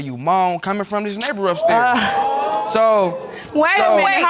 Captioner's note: audience exclaiming